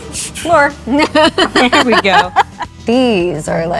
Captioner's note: laughing